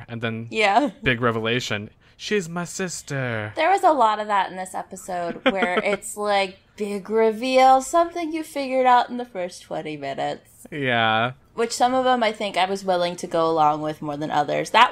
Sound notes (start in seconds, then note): 5.0 laughs